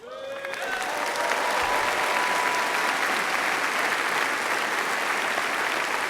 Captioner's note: applause